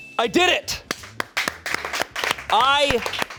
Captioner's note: chime dings; audience members clapping